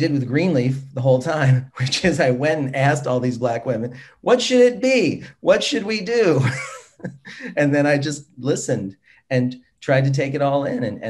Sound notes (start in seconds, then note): 6.4 laughs